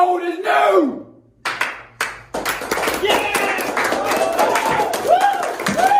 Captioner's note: applause